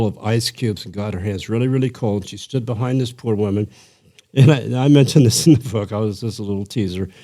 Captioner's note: chuckle